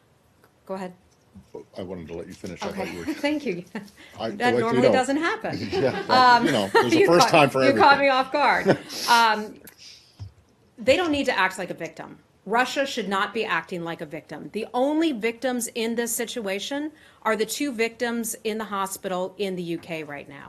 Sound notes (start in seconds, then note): 5.5 laughter